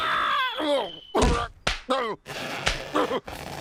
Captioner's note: grunts